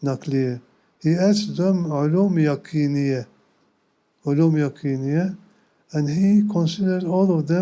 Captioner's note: non-english speech; non-english speech